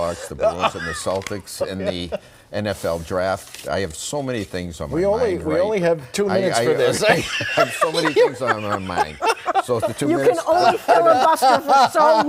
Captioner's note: laughter